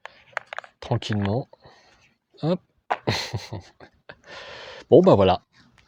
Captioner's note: laughs